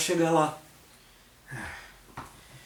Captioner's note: sighs